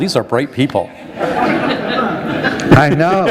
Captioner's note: laughter